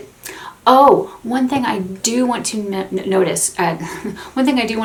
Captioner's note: laughs